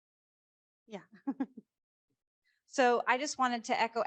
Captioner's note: laughs